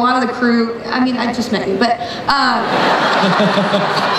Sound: crowd laughs

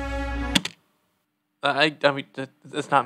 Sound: spacebar click

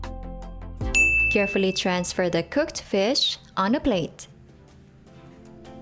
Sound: timer dings

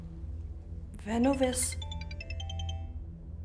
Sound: phone rings

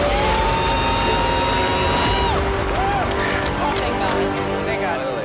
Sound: on-lookers cheering

